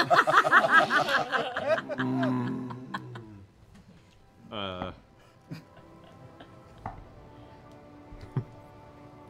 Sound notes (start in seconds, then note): 0.0 laughing; 1.9 growling